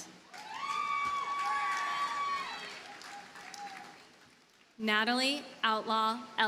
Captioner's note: audience cheers and applauds